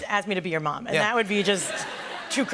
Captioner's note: laughter